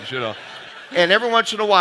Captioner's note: audience laughing